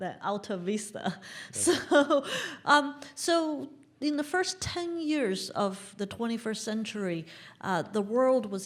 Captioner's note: laugh